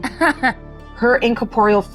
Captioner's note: chuckling